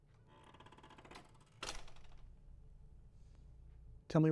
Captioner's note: door creaks